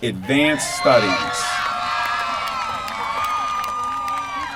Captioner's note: applause